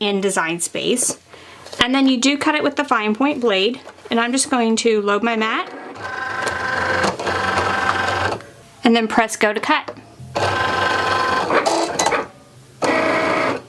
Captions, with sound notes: in design space and then you do cut it with the fine point blade and I'm just going to load my mat. (machine whirring) And then press go to cut. (machine whirring)